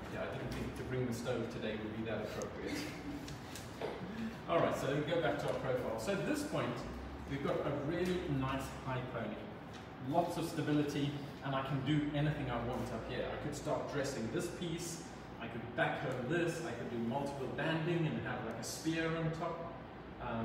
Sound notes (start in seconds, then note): 2.3 chuckling